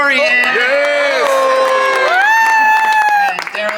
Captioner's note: cast cheers and applauds